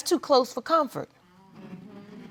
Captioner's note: audience mumbling